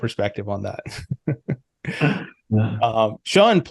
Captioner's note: both laugh